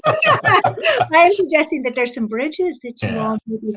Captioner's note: panelists laugh